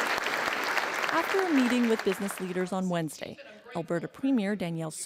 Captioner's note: applause